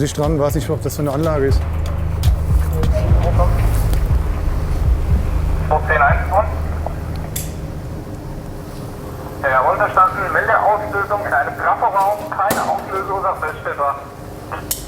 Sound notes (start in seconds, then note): 9.0 radio